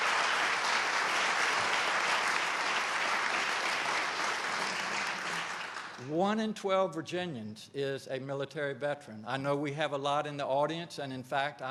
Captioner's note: applause